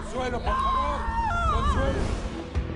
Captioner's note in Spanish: Gritos